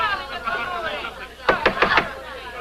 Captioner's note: knocking